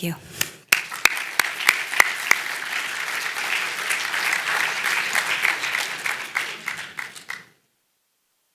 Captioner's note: applause